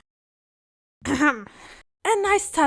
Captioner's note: embarrassed cough